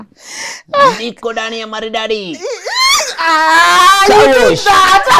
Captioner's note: whistles